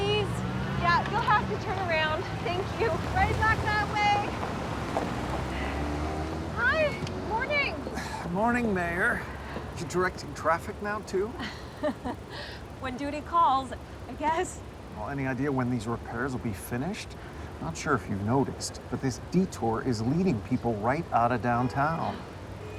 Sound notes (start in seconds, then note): 11.3 laughing